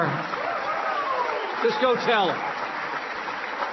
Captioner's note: applause